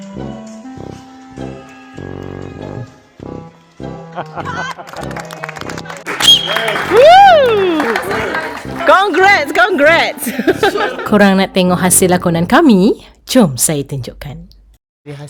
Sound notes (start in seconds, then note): 4.7 claps; 5.2 laugh